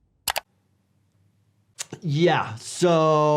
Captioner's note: mouse clicking